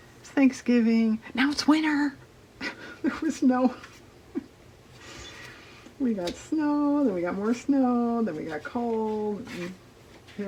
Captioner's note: laughs